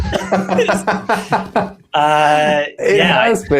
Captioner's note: laughs